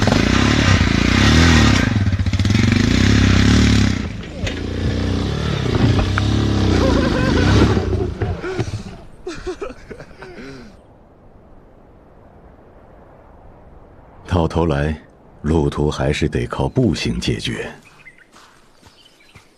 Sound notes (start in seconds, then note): 1.2 sound of the motorcycle straining; 5.2 motorcycle driving away; 6.6 laughter